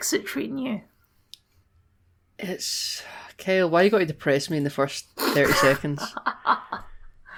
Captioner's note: ugh; laugh